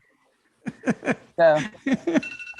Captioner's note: laughing